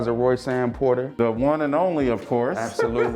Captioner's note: laughing